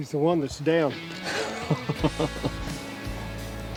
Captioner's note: laughter; guitar and drums